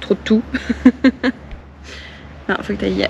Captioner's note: laughs